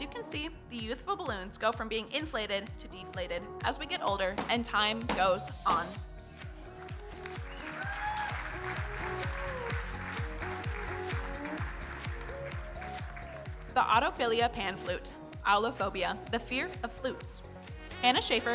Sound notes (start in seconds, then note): 5.1 balloons popping; 6.8 audience cheering and applauding